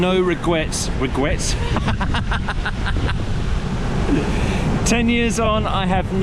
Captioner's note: laughs